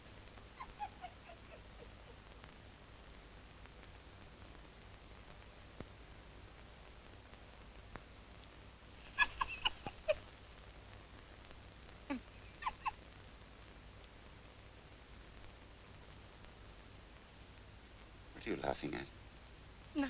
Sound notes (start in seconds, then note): 0.5 quiet laughing; 9.0 quiet laughing; 12.0 quiet laughing